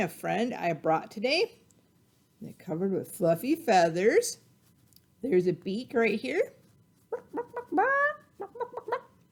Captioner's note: clucking